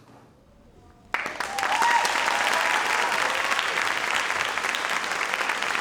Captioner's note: audience applauds